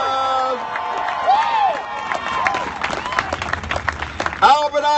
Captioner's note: cheers and applause